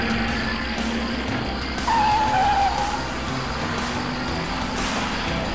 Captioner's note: car engine rumbling